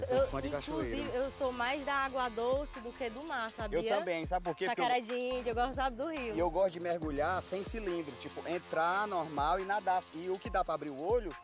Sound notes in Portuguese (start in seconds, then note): none